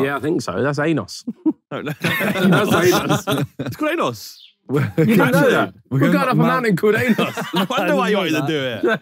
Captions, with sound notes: - Yeah, I think so that's Ainos. [Sidemen laughing] - It's called Ainos. - Did you know that? We're going up a mountain called Ainos. [laughing] - Wonder why you wanted to do it.